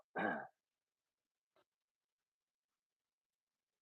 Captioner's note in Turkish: boğazını temizler